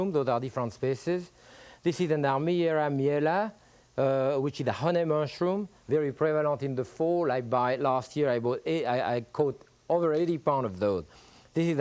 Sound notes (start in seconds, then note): 2.7 speaks french